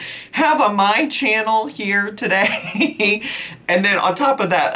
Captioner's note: chuckles